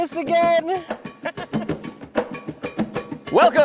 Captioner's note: theme music; laugh